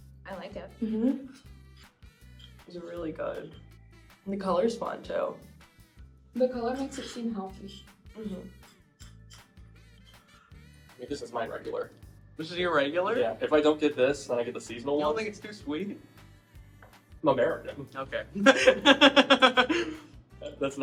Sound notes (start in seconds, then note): 8.2 spoon scraping; 18.4 laughs